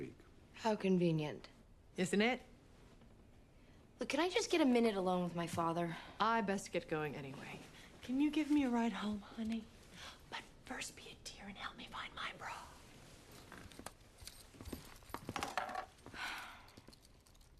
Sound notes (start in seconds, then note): 16.1 sighs